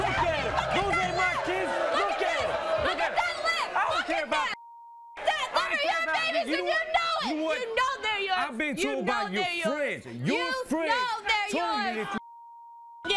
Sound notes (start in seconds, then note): 4.5 beeping; 12.2 beeping